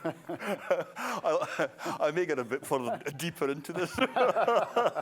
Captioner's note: laughter